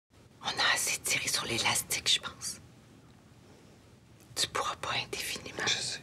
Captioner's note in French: chuchotant